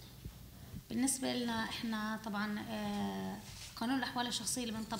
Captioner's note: speaking arabic